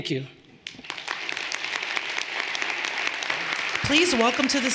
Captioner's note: everyone applauding